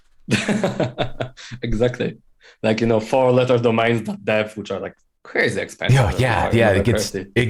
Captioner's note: laughter